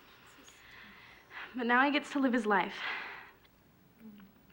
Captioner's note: sighs